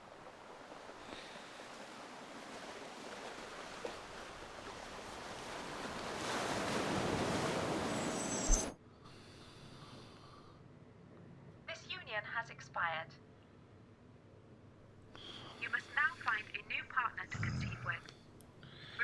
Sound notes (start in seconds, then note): 2.9 waves crashing; 11.5 robotic Voice